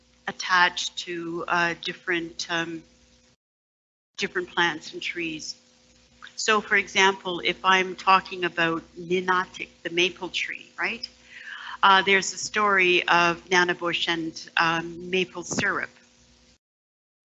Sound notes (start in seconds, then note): 9.5 foreign language